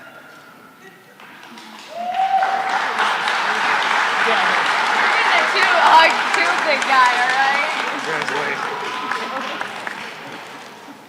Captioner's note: applause